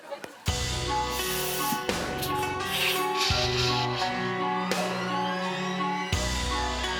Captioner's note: audience laughing; tense music; iron hissing steam